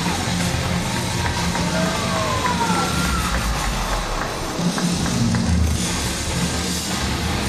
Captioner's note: crowd cheering